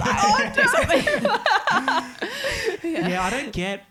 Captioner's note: all laughing